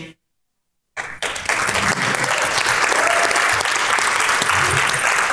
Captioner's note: crowd claps and cheers